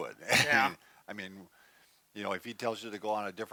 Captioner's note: scoffs